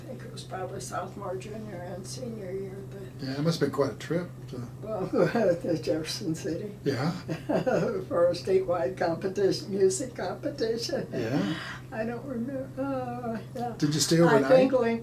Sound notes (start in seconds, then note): 7.1 laughing